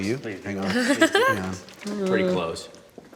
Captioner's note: laughing